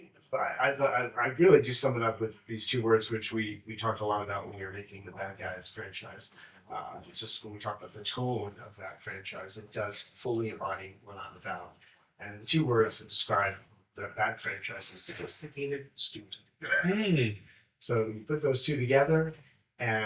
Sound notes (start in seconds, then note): 16.6 chuckles